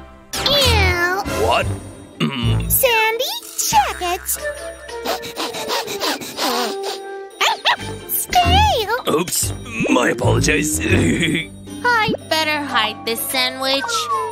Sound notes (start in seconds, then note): 5.0 sniffs; 7.4 barks